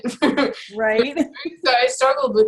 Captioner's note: laughs